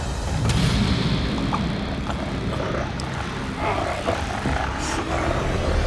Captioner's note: Jon Re-Enactor gasping